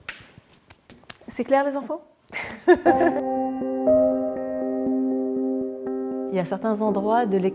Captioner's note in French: Rires